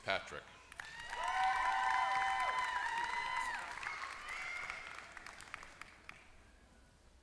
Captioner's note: applause